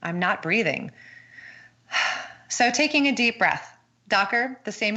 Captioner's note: breathes audibly